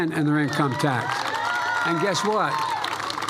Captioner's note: applause